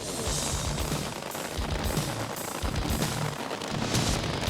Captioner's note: engine running